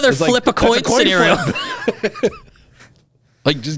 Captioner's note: laughs